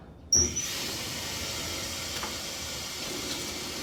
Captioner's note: water running